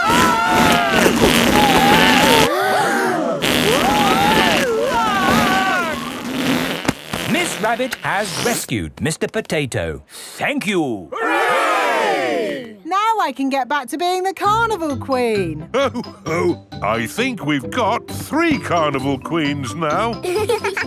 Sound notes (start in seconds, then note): 0.0 both screaming; 3.5 crowd gasps; 4.7 screaming